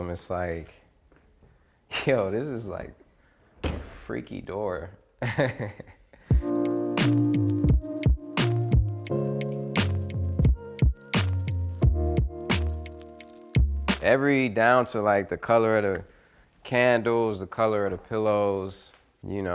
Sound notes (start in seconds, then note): 5.2 laughs; 6.3 relaxing music